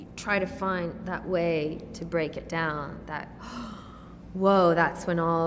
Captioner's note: gasps